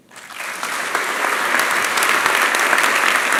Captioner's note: applause